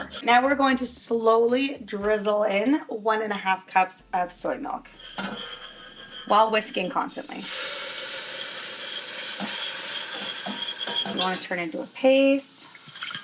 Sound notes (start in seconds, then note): 4.9 whisking ingredients; 7.4 pot sizzles